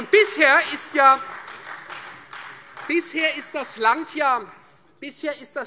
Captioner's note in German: Beifall Freie Demokraten